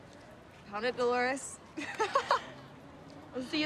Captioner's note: laughs